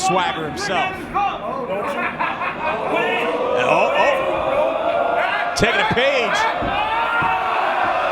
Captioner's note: laugh